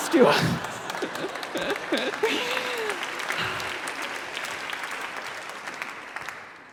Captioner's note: audience applause